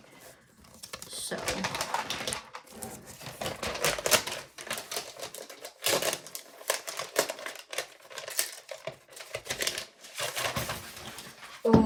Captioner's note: crinkling